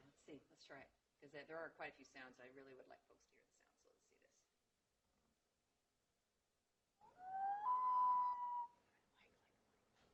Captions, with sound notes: Yeah, let's see. Let's try it because there are quite a few sounds that I really would like folks to hear. (common loon calling)